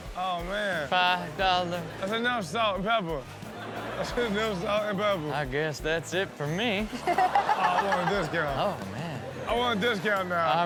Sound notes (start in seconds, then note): 3.4 audience laughs; 6.8 all laugh